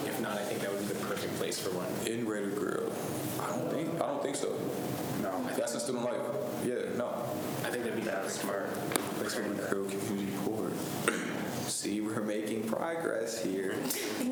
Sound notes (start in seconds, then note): 9.5 faintly speaking